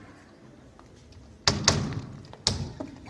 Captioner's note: knock knock